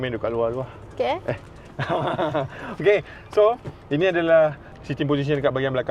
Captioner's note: ketawa